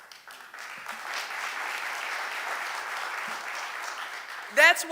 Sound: audience applauding

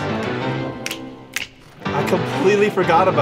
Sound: both snap fingers; snaps fingers

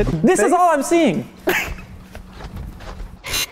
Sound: laughter

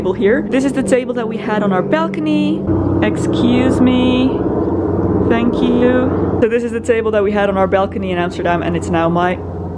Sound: loud airplane noise

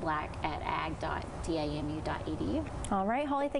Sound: audio static

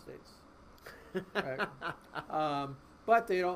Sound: laughing

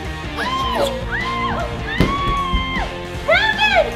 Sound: mom screaming

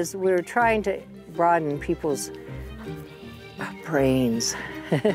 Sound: laughs

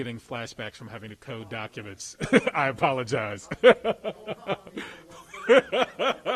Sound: laughs

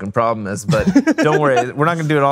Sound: laughing

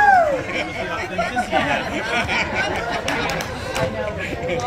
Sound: laughter and Applause

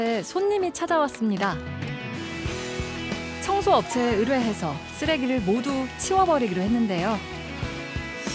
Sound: voiceover

